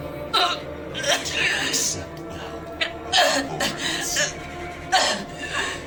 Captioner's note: Tracy choking